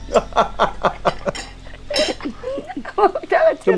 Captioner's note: both laughing